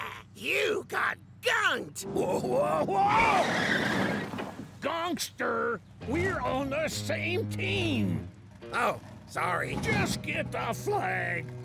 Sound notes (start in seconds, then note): 2.1 tires squealing